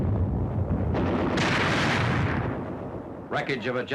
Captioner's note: pillbox explodes